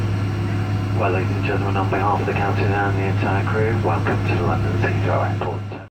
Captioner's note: captain on P.A